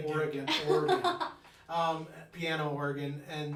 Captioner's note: laughing